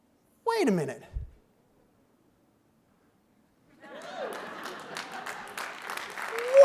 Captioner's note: clapping